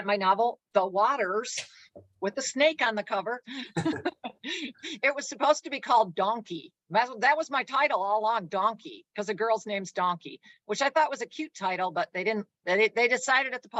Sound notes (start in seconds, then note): 3.5 chuckles; 3.5 laughs